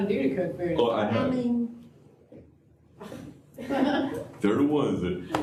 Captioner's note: laughter